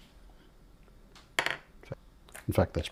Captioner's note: silence